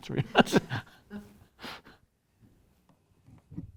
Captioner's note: laughs